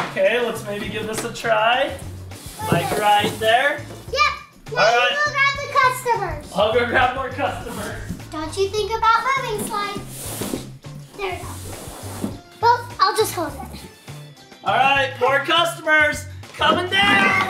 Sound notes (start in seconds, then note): 11.9 cardboard sliding